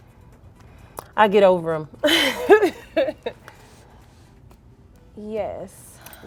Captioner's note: laughing